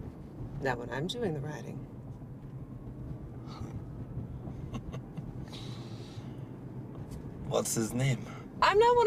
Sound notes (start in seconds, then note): 4.6 Radovan laughs